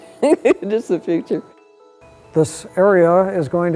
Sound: chuckles

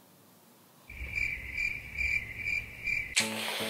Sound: cricket noise

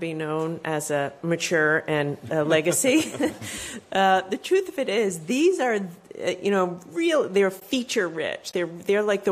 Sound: laughter

